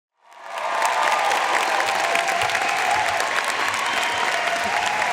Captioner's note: audience cheering and applauding